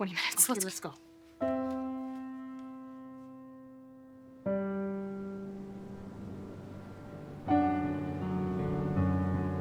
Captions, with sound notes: Let's go. - Okay, let's go. (soft music) (wind whistling)